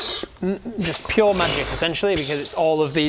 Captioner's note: pfffpfpfpfpt